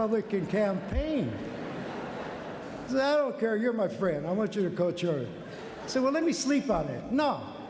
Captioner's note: lghter